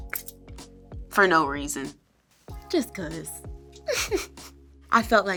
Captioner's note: chuckles